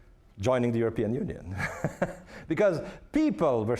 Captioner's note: laughing